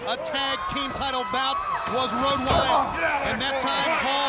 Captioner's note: blows thudding